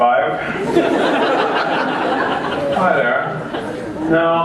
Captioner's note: laughter